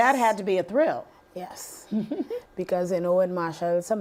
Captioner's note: laughing